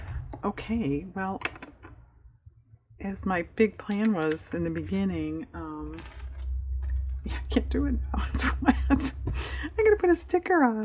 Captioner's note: laughs